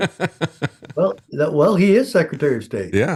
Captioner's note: laughing